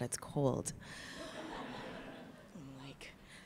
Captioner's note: laughs in the audience